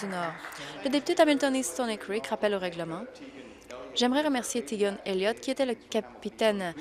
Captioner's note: applause